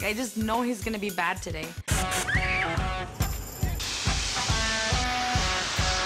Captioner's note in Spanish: screams